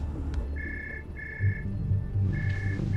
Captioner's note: ringing